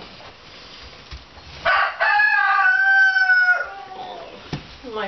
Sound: crowing

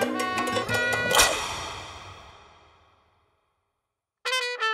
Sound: finger snaps

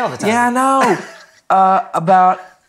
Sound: chuckling

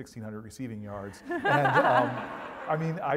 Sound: laugh

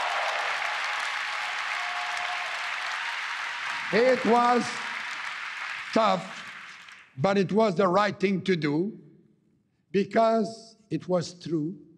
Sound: cheering and APPLAUSE

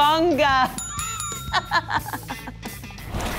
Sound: laughing

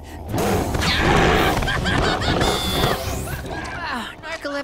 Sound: chuckles; screaming

